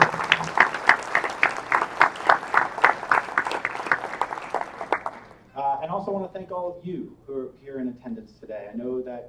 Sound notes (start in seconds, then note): 4.7 applause